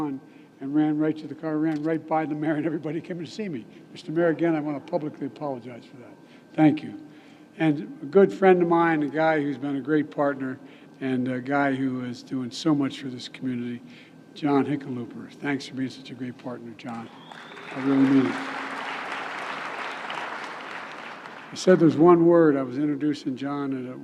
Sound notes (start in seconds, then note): 17.1 applause